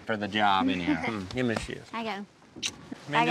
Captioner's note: smooch